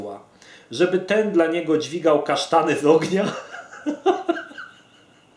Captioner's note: giggles